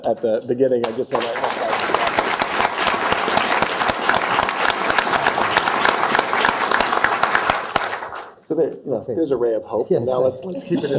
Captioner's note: applause